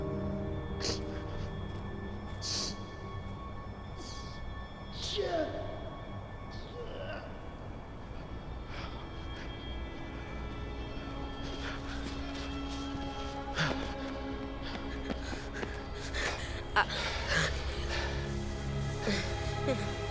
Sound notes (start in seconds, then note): 6.3 grunting; 8.1 tense droning music continues; 11.3 footsteps crunching; 14.4 shooter panting; 17.0 Kevin stammering